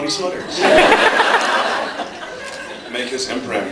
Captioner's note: laughs